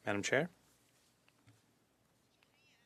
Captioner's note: speaking French